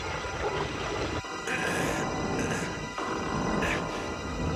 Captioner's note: strains